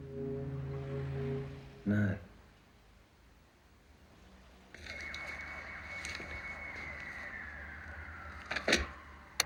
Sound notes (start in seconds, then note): 4.7 distant siren wailing